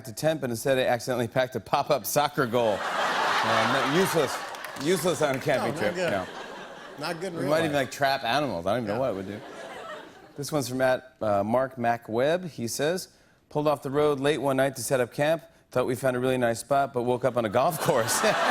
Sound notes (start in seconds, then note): 2.6 laughter